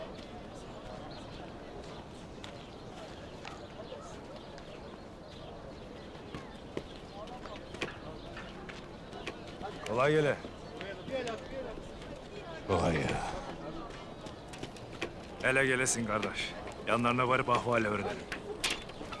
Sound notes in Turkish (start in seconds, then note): 0.6 Kuş cıvıltısı sesleri